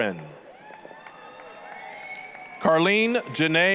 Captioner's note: applause, cheering